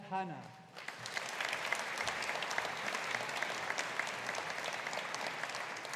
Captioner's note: audience applauding